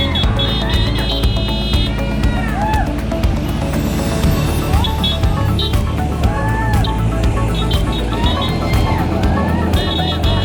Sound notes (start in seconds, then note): 5.0 horns honking; 6.2 crowd cheering